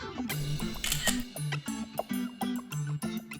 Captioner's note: camera shutter flashing; soft music